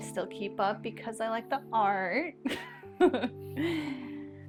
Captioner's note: laughs